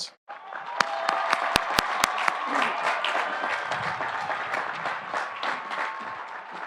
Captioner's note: audience applauding; audience cheering